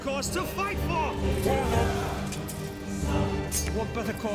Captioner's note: all shouting